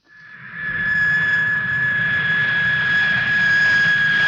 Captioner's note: airplane engine whirring